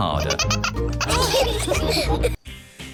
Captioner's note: all laugh